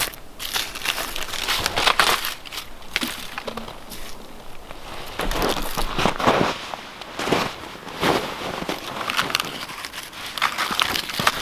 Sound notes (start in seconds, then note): 7.1 snow crunching